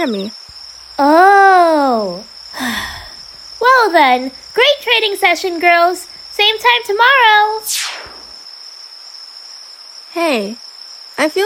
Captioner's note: sighs